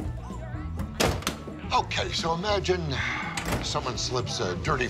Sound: door opens, closes

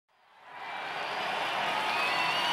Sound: people cheering

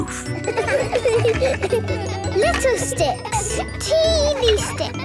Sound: laughter

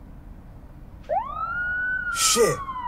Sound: police siren

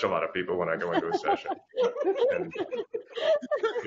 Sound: laughter

